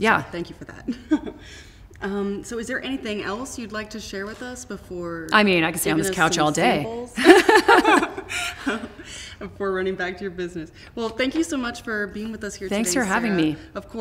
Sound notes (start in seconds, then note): 7.2 laughter